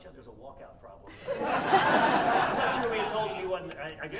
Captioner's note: audience laughing